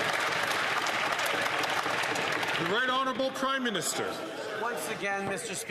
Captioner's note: some Applause